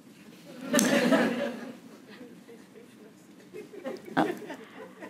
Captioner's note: audience laughing